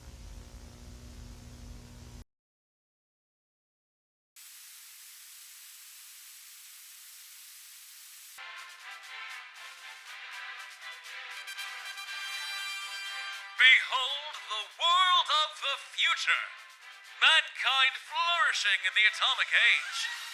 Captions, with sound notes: [Television static noise] “Behold! The world of the future! Mankind flourishing in the atomic age!"